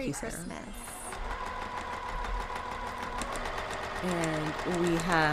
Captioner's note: sewing machine whirrs